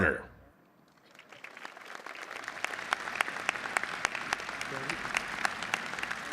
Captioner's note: applause